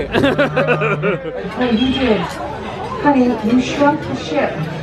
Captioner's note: laughing